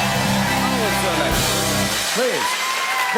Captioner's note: cheers and applause